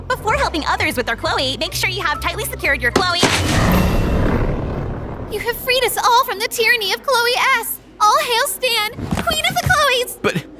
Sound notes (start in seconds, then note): 3.0 portal humming